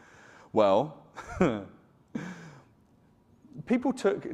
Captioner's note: chuckles